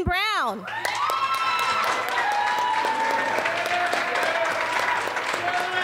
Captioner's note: audience applauds and cheers